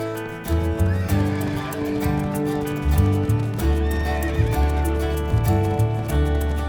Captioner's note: gentle music; hooves clopping; horses whinnying